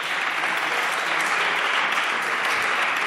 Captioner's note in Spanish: Aplausos.-Rumores